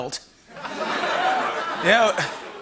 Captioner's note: laughter